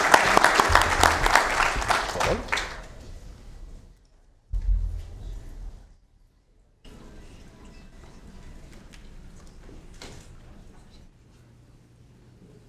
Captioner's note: applause